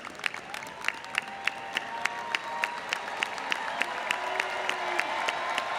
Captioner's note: audience cheers and applauds